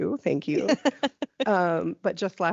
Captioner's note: laughing